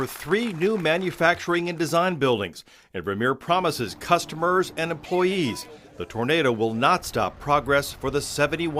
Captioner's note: applause